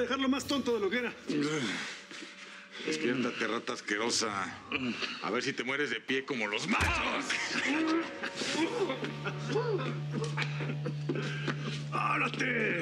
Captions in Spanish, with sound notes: DEJARLO MÁS TONTO DE LO QUE ERA. >> DESPIÉRTATE, RATA ASQUEROSA, A VER SI TE MUERES DE PIE ¡COMO LOS MACHOS! [GOLPES] [QUEJIDOS]